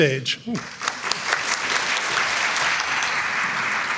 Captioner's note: crowd applauding